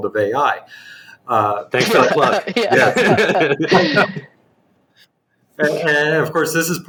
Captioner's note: laughter